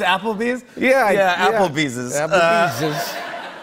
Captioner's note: laughter